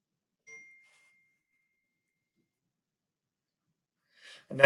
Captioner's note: cell phone chimes